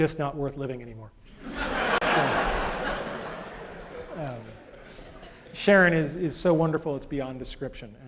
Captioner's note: laughter